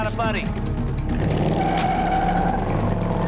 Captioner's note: tires squealing